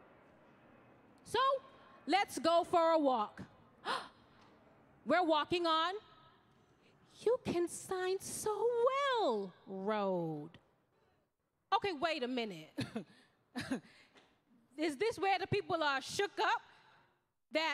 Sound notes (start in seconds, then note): 3.8 gasping